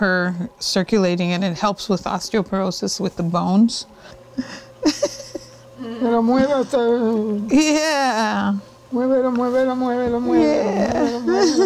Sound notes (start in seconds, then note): 6.6 Spanish; 9.6 Spanish